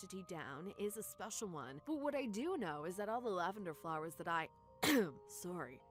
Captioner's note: cough